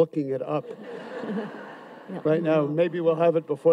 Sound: audience laughs

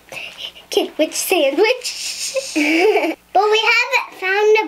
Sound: laughing

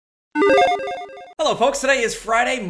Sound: video game ping

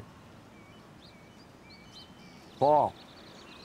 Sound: birds tweet

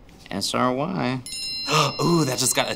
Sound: text alert

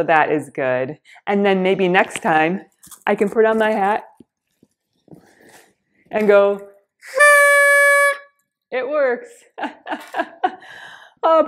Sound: horns blows

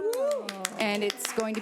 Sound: people cheering

